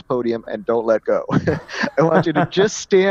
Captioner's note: laugh